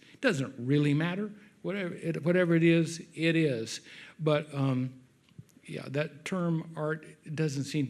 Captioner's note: none